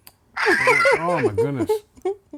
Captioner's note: laughing